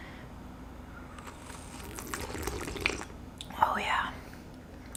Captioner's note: slurping